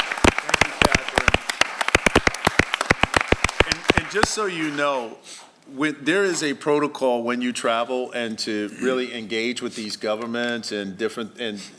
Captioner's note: applause